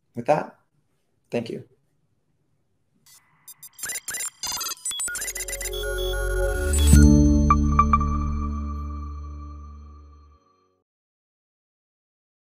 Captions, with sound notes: With that, thank you. (icon beeping) (soft music)